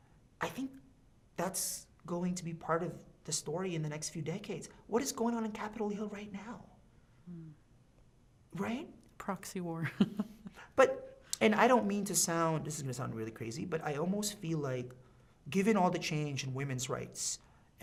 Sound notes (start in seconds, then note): 9.8 chuckling